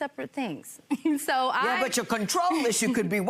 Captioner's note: chuckles